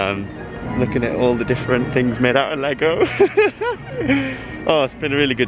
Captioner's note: laughter